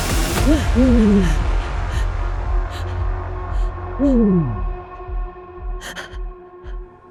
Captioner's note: eerie music; owl hoots; Sarah breathing